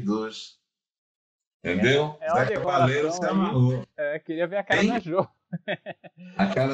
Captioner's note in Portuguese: risos